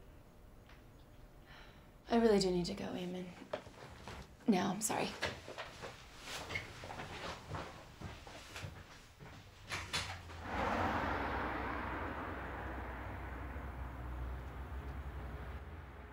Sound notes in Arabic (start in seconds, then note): 1.5 تنهد